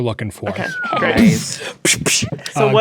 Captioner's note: players imitating guns